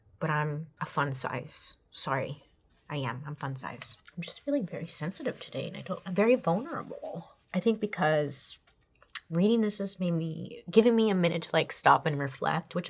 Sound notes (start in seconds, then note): none